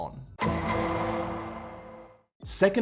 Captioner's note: dramatic sound